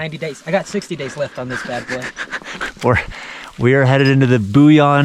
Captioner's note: chuckles